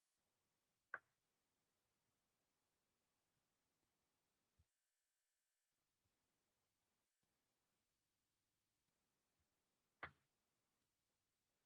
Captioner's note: brief silence